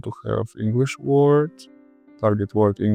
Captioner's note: Spanish